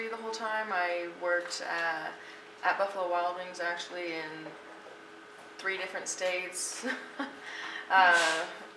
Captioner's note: chuckles